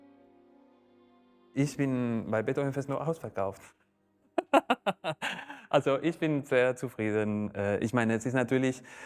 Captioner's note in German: lacht